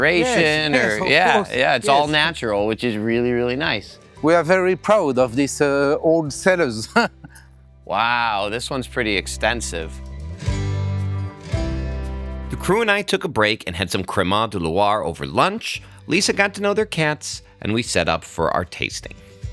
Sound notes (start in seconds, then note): 6.8 chuckles; 10.0 gentle music